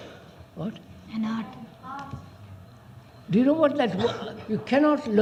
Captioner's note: laughs